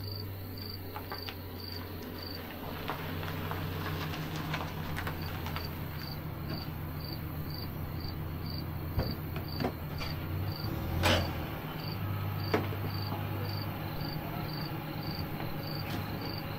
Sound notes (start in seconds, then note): 4.5 crickets chirping